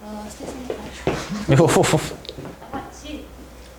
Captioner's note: footsteps